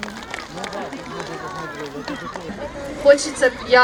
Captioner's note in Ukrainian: аплодисменти